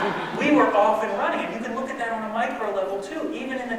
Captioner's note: laughter